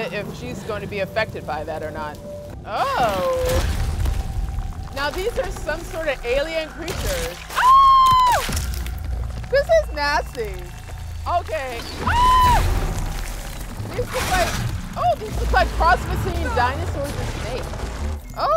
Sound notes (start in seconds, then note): 11.9 screams